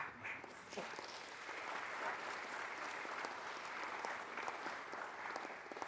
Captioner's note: applause